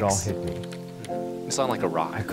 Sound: keyboard clacking

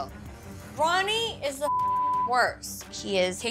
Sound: beep

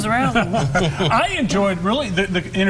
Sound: chuckles

